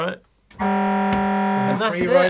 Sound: horn blasts

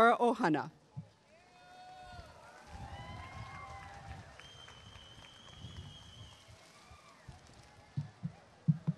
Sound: applause and cheering

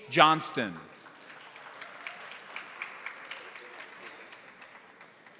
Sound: crowd applauding

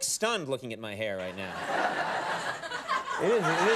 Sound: studio audience laughs

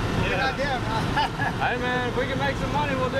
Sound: laughs

